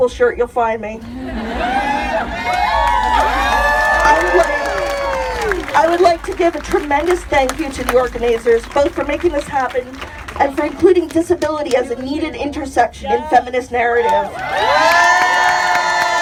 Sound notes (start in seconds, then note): 1.0 cheers